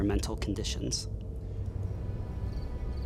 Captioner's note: eerie music; crickets chirping